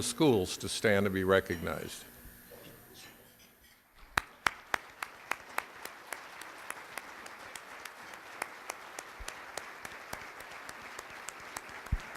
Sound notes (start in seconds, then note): 4.0 applause